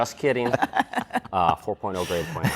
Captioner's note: laughing